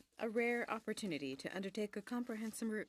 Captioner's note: speaking in french